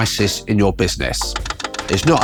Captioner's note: text clicking